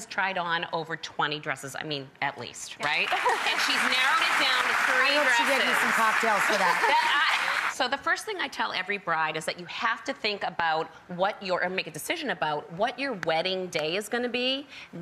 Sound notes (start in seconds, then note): 2.8 applause; 6.3 laughter